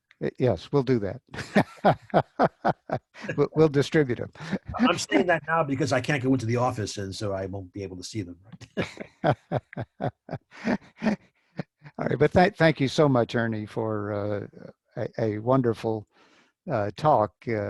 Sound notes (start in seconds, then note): 1.3 laughs; 8.6 laughs